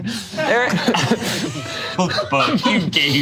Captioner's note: group laughs